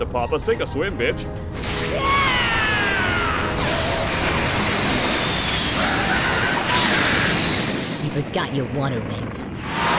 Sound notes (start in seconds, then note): 3.5 More Michael Bay explosions